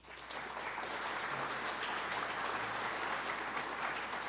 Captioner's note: audience applauds